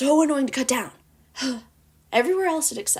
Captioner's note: sigh